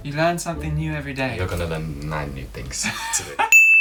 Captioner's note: laughter